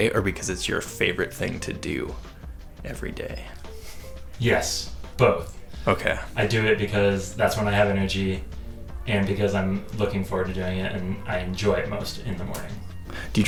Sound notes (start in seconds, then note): none